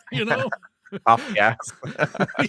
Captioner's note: laughing